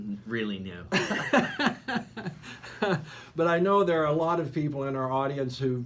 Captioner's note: laughing